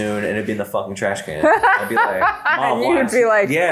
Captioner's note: laughs